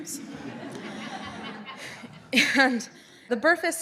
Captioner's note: audience laughs